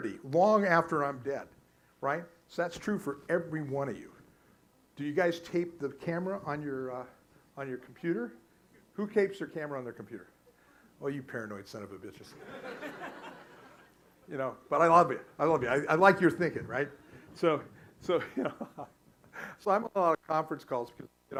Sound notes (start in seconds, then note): 12.3 audience laughs; 18.1 laughing